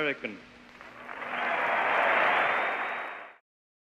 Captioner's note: cheers and applause